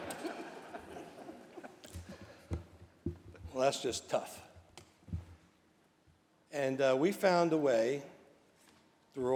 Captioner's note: laughter